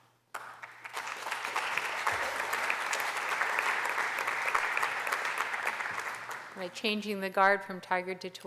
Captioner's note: applause